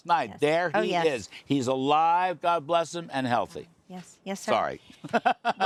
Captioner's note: laughter